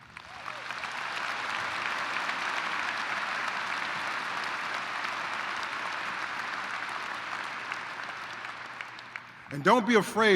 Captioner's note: applause